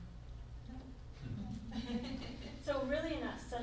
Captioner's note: laughs